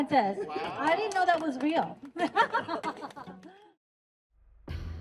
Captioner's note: laughs; upbeat music